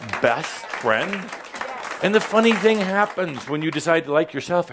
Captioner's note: applause